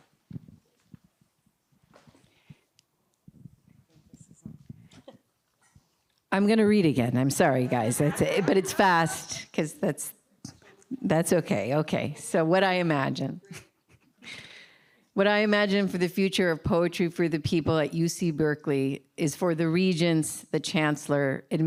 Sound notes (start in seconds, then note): 4.9 sighs; 13.4 laugs